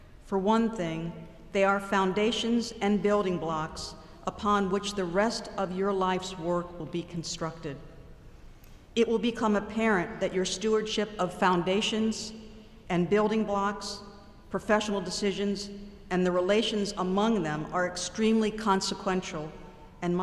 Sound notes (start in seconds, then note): none